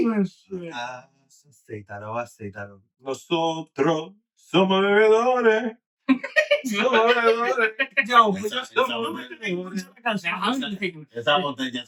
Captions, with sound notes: Oh shit. (Speaking In Foreign Language) (Laughing) Yo, you're still doing it. How long are you taking the time? (Speaking In Foreign Language)